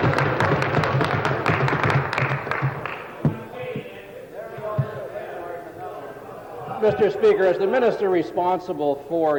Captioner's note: table Pounding